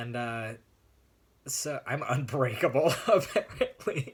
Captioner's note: laughs